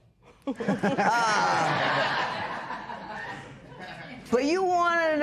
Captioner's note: laughter